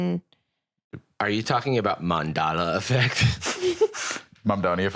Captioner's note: laughs